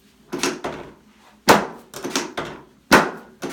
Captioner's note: several bangs